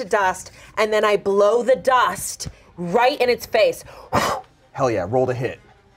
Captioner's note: blows